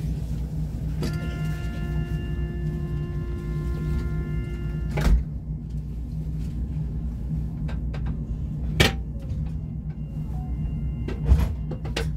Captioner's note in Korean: 출입문 닫힘